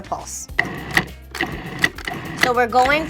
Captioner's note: processor pulsing